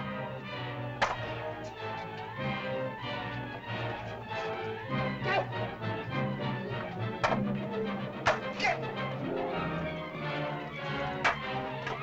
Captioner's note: suspenseful music; spears bang